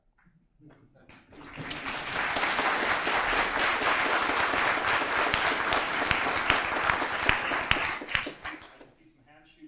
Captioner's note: audience applause